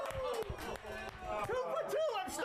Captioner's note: all cheer